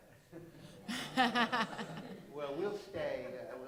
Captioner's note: laughter